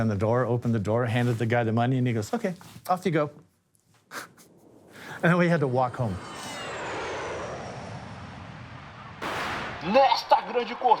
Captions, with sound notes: and he goes, "Okay, off you go." [laughs] And then we had to walk home. [airplane whooshing past] [bang] [announcer in Portuguese] In this race, the Formula One of sailing.